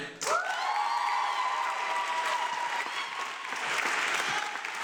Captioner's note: audience clapping